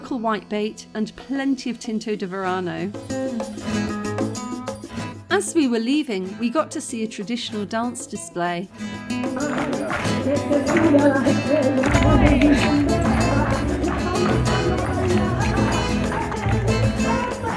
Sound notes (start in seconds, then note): 9.1 spanish music and singing; 9.2 clapping and stomping